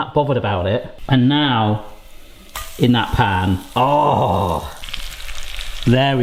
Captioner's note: chicken sizzling